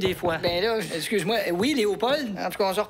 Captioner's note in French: Toc! Toc!